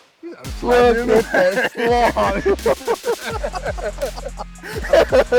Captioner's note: laughing